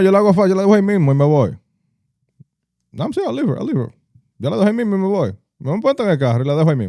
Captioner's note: speaking In Foreign Language